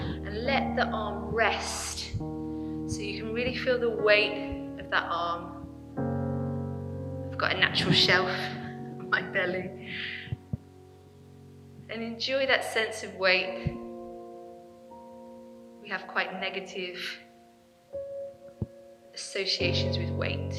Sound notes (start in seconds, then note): 7.3 chuckling lightly